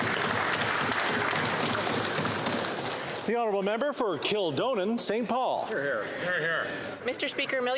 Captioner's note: some Applause